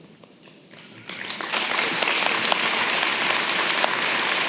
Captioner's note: applause